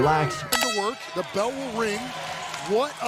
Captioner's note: audience clapping